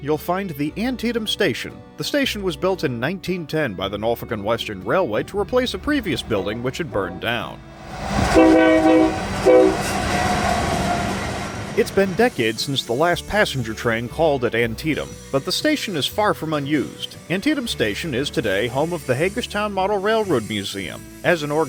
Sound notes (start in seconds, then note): 7.7 train horn